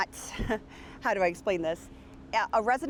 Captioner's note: chuckles